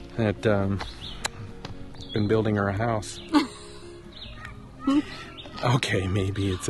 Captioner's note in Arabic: يضحك